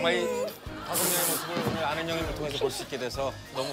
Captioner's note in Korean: 뿌엥